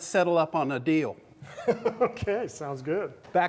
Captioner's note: laughter